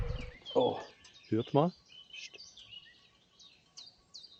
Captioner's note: birds chirping